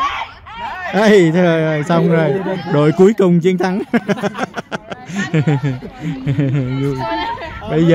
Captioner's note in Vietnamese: Tiếng cười